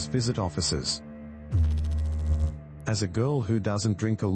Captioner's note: electrical noise